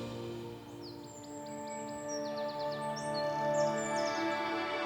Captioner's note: birds chirping